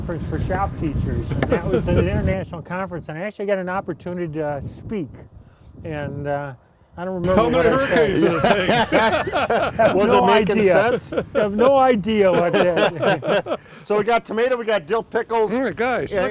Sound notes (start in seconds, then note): 9.7 group laughs; 13.6 laughs